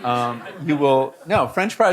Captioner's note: audience laughing